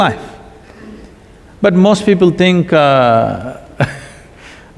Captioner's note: laughs